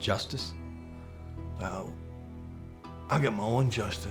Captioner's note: scottish accent